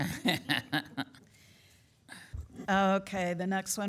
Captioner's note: laughing